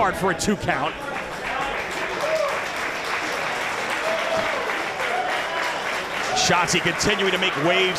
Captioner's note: applause